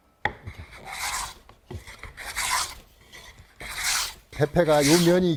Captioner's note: planing sound